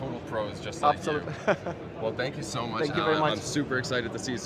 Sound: laughs

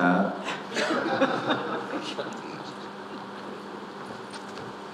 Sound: audience laughing

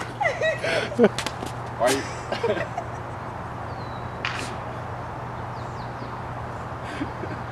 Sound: laughing; more laughing

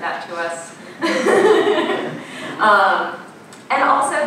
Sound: laughing

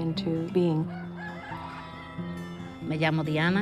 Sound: rooster crows

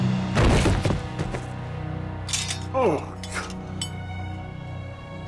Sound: crashes; grunts

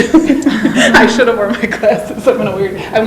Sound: laughs

